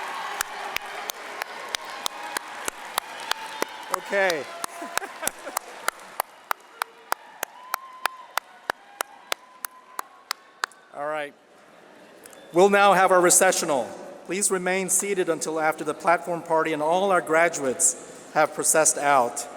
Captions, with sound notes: (laughter) All right. We'll now have our recessional. Please remain seated until after the platform party and all our graduates have processed out.